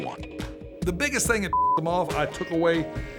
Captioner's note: beeps